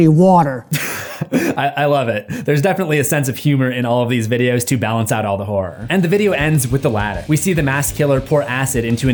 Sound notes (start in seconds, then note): 0.7 laughing